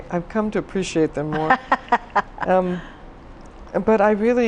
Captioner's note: laughs